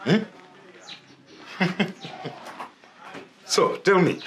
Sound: chuckles

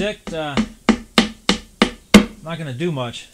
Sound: hammer pounding

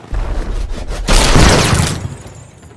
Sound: explosion

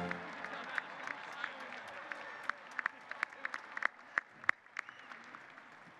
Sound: applause

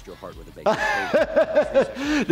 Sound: laughing

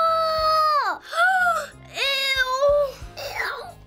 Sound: gasping

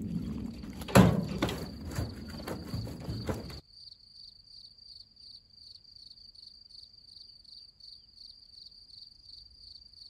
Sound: sounds of crickets

